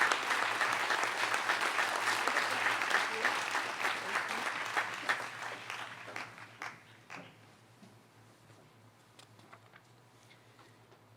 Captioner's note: applause